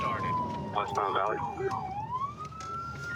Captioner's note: sirens